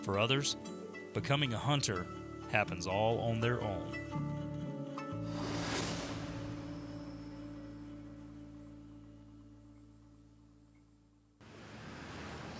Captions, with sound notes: For others, becoming a hunter, happens all on their own. (wind whooshes)